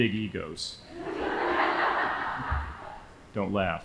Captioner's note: audience laughing